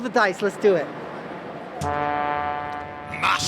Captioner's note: laughing